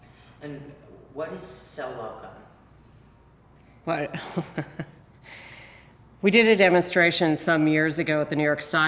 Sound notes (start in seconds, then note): 4.2 laughs